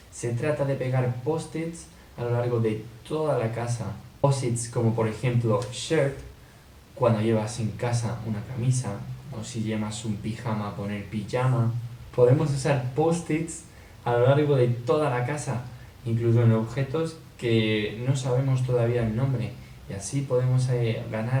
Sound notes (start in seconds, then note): 10.8 Spanish